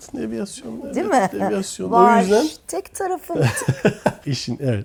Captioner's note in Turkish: kahkaha